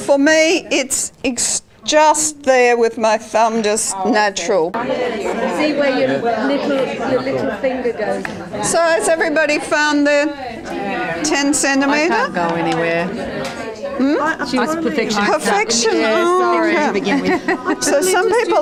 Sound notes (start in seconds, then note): 4.8 audience chatter